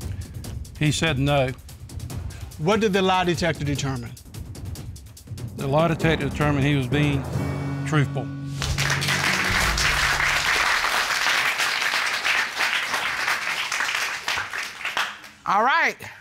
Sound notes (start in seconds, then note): 7.9 audience applauds